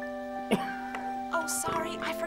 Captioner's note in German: Husten